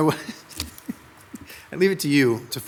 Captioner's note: laughs